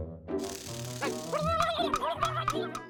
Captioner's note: gobbles angrily